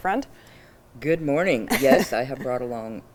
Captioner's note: chuckles